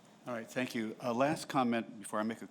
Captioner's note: voiceover